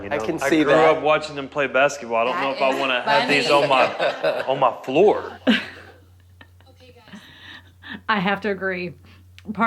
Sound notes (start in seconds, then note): 5.4 laughter